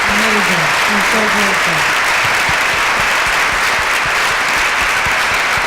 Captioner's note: applause